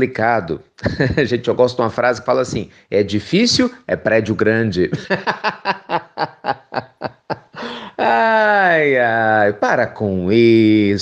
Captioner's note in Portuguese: risos